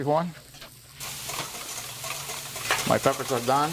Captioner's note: pan sizzling